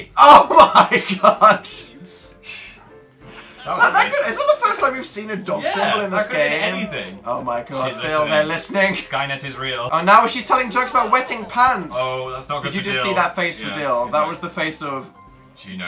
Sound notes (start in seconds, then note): 0.2 laughs; 4.0 stammers